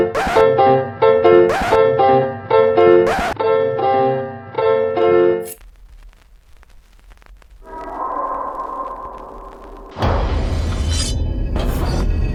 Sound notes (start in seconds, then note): 7.6 eerie howl